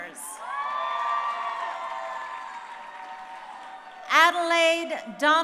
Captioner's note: crowd cheering